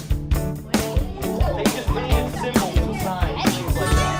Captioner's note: children Talking